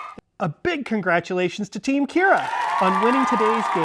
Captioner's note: audience cheering